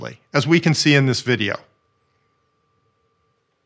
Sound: none

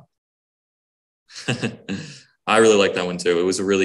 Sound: chuckles

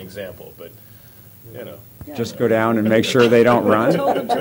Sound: laughter

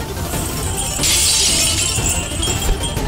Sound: glass shattering

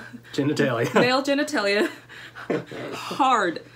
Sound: laughter

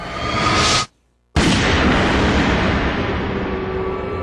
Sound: gunshot

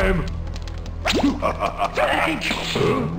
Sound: evil laugh

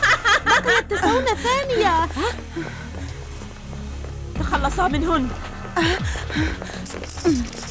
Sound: evil laughter

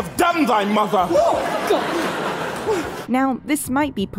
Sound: gasps and audience laughter

